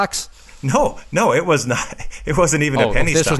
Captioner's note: chuckles